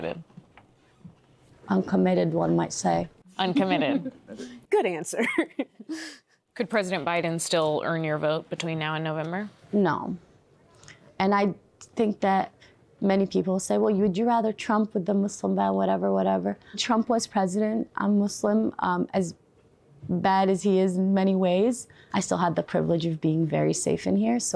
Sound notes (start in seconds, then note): 5.2 laughter